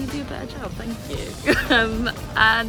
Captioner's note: laughs